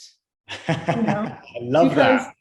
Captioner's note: laughs